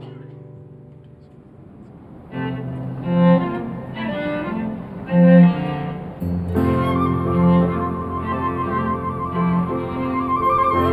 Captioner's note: humming